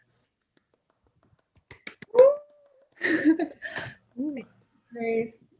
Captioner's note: clapping